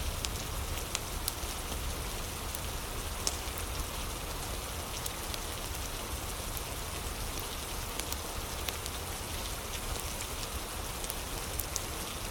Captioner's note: fire crackling